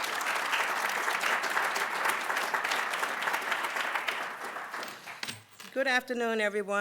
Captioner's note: applause